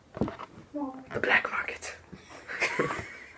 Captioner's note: whispers; laughter